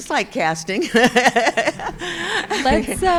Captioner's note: laughing